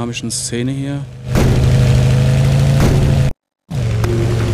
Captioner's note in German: Motorendröhnen, Krachen; Dröhnen wird schwächer